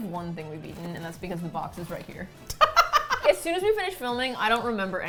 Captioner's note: laughs